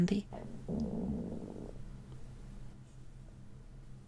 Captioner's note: stomach makes a little rumble